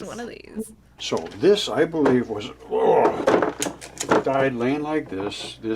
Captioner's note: groans